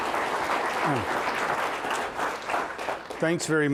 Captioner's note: applause